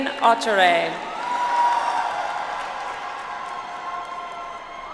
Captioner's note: audience applauds